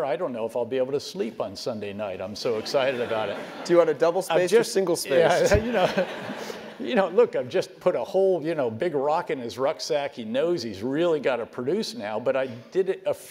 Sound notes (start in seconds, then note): 3.3 laugh